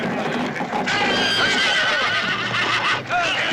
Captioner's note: horses neighing